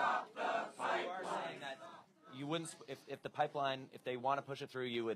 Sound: chanting

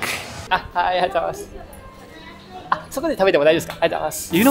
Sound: speaks japanese

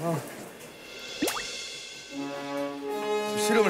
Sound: boiling water

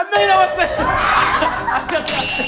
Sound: screaming

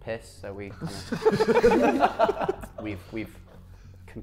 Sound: Sidemen laughing

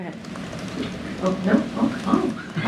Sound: laughter

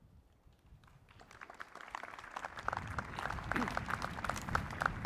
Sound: applause

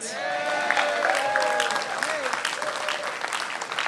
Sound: applause

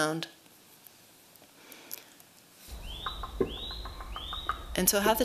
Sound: birds chirping

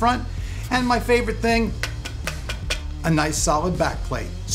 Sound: knocking

